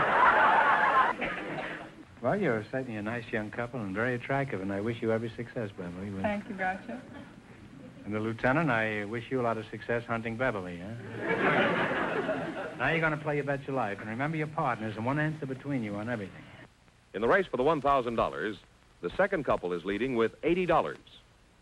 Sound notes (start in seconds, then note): 0.0 audience laughter; 11.0 audience laughter